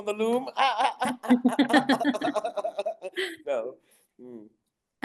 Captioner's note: both laughing